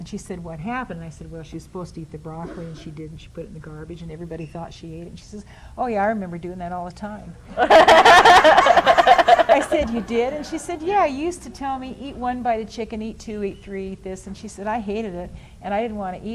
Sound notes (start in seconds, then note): 7.5 laughter